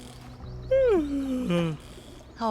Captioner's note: goat yawns